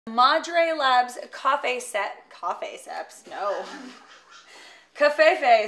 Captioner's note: laughing